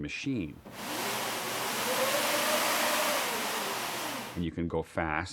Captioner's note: whooshing